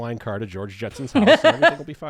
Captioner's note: laughs